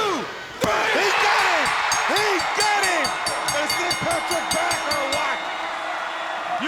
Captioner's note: bell rings